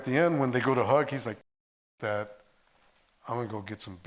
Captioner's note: audio cuts out